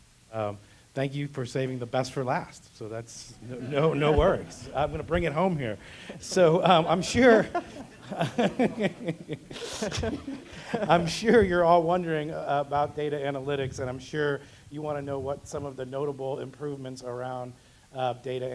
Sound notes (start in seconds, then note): 7.6 laugh